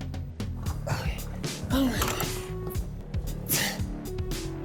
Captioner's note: grunts